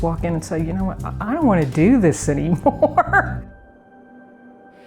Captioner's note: laughing